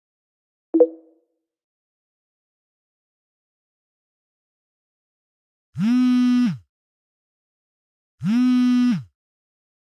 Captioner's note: phone Vibrating